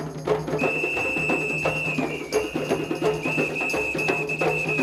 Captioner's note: whistles trilling